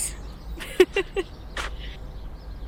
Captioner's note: Grace laughs